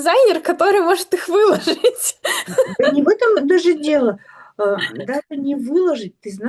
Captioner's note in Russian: смех